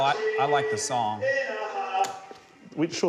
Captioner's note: click! music stops